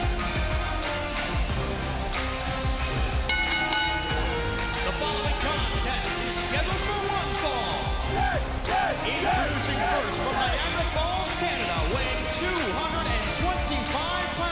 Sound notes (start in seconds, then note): 3.2 bell ringing